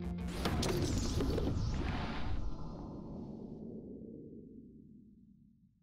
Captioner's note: explosion whooshing